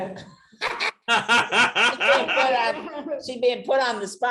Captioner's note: all laughing